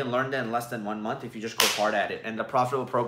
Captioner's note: hands slap